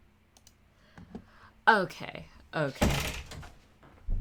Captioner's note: door slamming noise